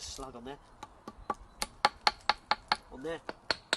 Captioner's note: tapping sound